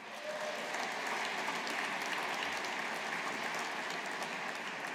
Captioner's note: audience applauding